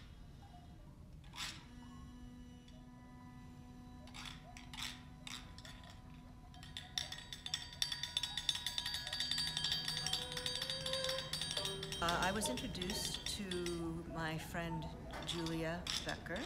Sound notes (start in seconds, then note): 3.0 light bells